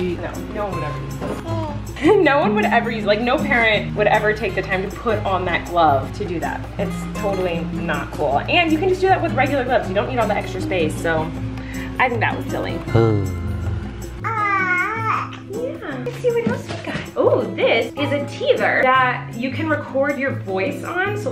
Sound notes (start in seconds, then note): 12.9 man cooing; 14.2 baby cooing